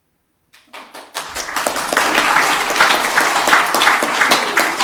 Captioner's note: audience applauding